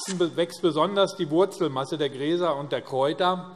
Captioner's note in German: none